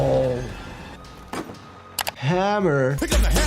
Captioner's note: hammer thuds